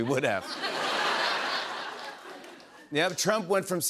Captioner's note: laughter